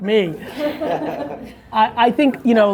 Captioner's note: laughing